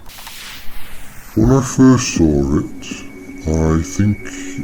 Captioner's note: tape starts